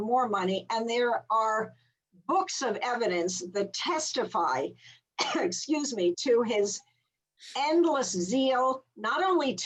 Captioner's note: coughs